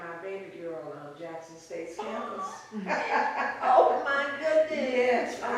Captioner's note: laughs